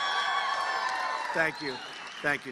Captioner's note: cheers and applause